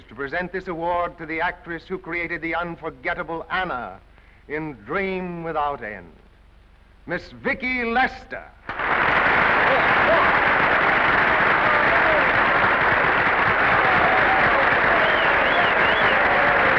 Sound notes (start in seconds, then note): 9.2 applause; 12.5 applause and cheers